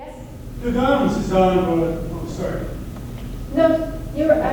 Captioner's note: voiceover